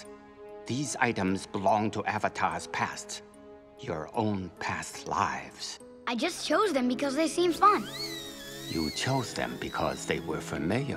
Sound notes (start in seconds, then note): none